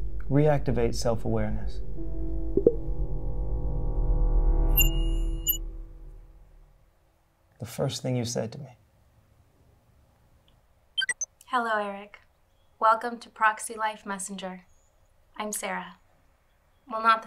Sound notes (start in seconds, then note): 4.7 app chimes